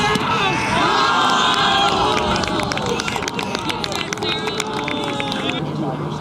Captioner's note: applause